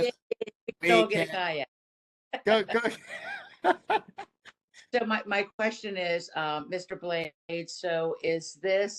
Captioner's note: laughter